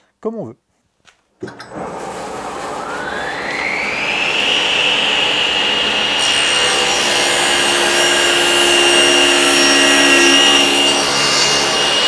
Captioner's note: cutting noise